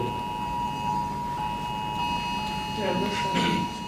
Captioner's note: alarm blaring